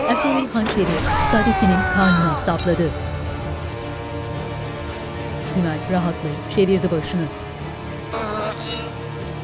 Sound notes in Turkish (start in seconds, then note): 0.9 Hançer sesi